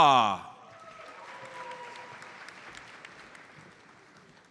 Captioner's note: audience applauds